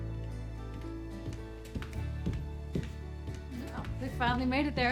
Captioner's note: footsteps approaching